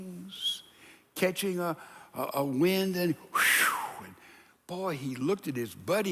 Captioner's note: exhales quickly